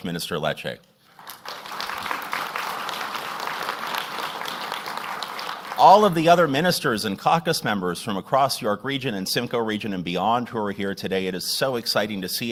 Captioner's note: applause